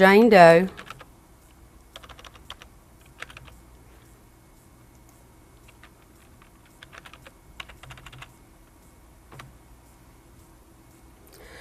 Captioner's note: typing